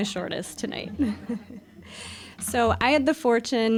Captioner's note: audience laughing